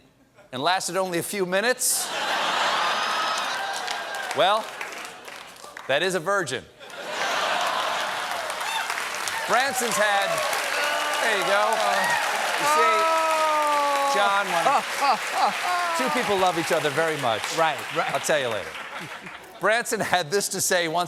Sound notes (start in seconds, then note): 6.7 applause; 6.8 laughter; 12.9 cheers and applause